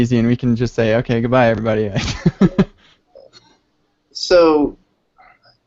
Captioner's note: laughs